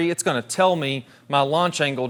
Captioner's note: none